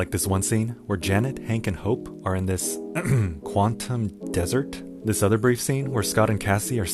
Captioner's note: ahem